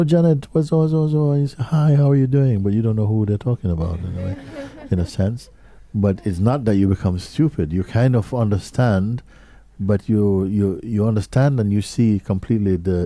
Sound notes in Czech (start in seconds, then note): 3.8 smích